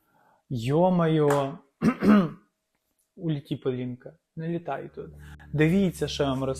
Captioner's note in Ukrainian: прочищення горла